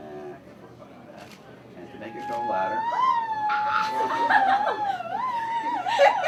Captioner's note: laughter